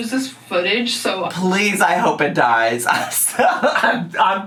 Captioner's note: laughs